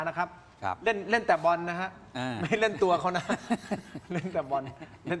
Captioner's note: laughter